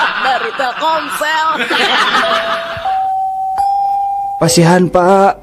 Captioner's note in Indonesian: tertawa